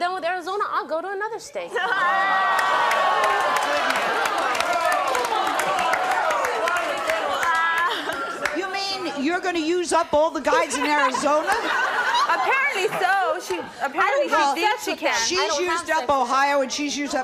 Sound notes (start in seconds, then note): 1.7 audience jeering